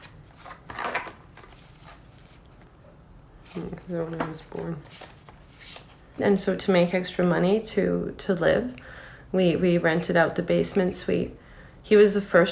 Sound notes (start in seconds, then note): none